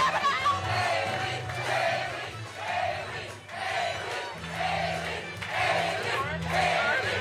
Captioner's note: cheers and applause